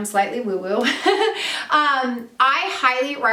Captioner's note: laughs